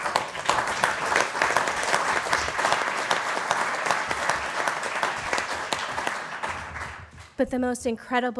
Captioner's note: applause